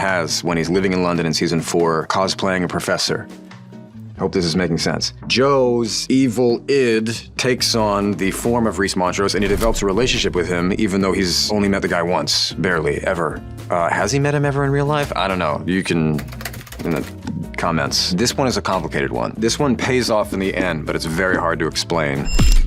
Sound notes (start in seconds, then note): 16.2 keys tapping